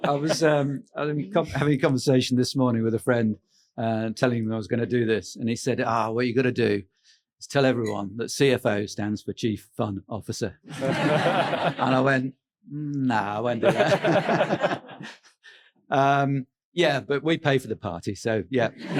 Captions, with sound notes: - I was having a conversation this morning with a friend, telling him I was going to do this and he said, "Ah, what are you going to do is tell everyone that CFO stands for chief fun officer." (audience laughing) And I went, "Nah, I won't do that." (laughs) Yeah, but we pay for the party so, yeah.